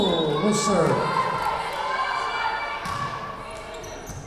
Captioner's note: whistle blowing